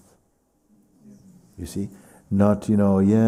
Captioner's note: voices in group